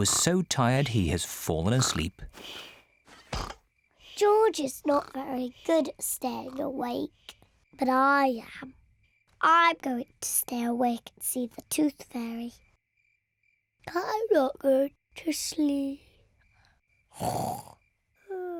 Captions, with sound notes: He was so tired he has fallen asleep. George is not very good at staying awake, but I am. I'm going to stay awake and see the Tooth Fairy. (SLEEPILY) I'm not going to sleep. (SNORING)